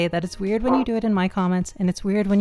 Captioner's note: bark